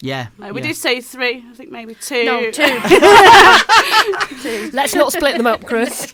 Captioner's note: laughing